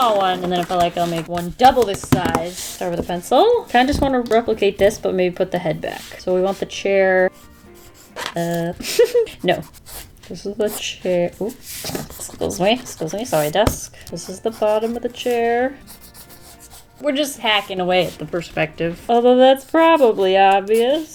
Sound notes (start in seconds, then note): 8.8 giggles